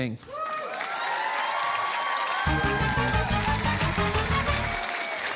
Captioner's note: cheering, applause